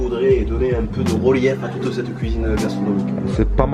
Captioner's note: Marseille accent